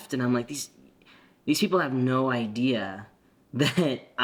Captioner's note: chuckles